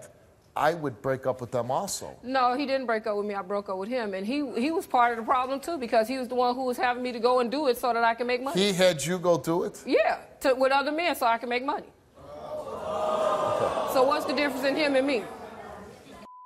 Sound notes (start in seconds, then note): 12.2 crowd yells